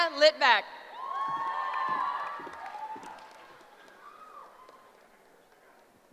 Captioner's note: cheering